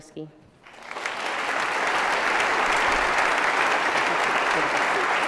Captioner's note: applause